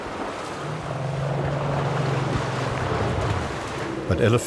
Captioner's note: rumbling